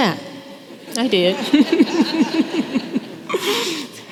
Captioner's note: laughter